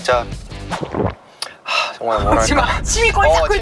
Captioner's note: smack